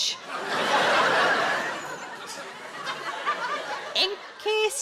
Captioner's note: audience laughs